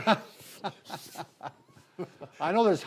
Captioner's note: laugh